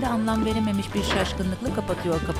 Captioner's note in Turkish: Çarpma sesi